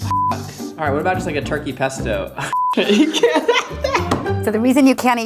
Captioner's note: laughs